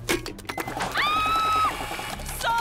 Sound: screaming

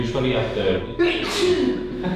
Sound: sneezes

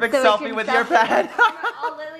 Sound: laughs

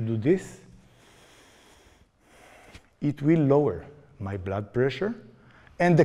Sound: slow, deep inhalation

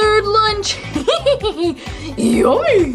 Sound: hee hee hee hee

